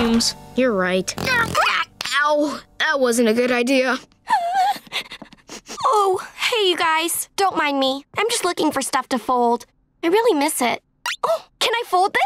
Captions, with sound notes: You're right. Ow. That wasn't a good idea. [whimpering] Oh. Hey, you guys. Don't mind me, I'm just looking for stuff to fold. I really miss it. Oh, can I fold this?